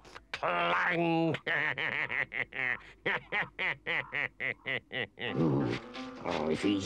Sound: Henchman Weasel cackles

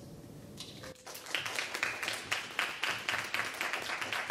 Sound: audience clapping

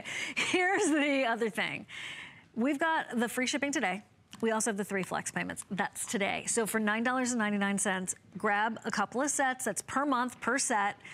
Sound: laughter

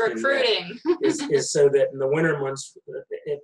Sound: laughs loudly

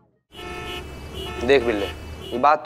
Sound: traffic noise

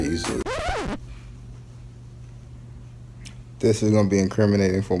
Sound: record scratching

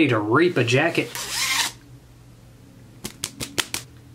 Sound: zipper

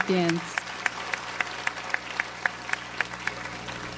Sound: audience applauds

